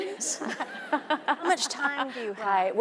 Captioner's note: audience laughing